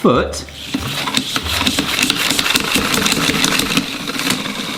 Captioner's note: Spina whooshing